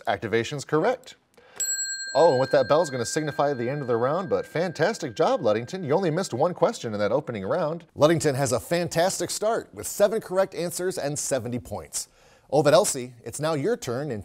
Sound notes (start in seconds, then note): 1.5 ding